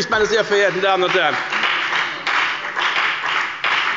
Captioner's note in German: Beifall bei der FDP